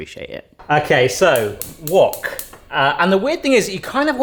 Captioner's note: burner clicks